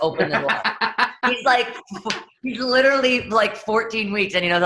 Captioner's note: laughs